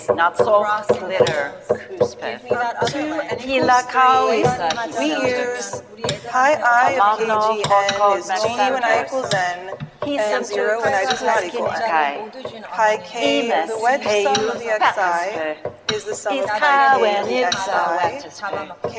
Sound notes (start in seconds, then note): 0.3 speaker speaking in foreign language; 13.3 people speaking altogether indistinctly